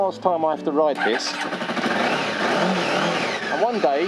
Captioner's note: motorcycle engine roars to life